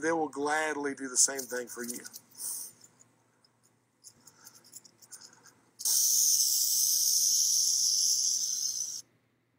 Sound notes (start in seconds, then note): 5.8 snake hisses